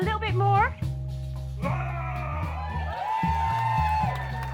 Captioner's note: applause; roar!